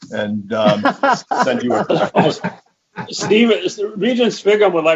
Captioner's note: laughing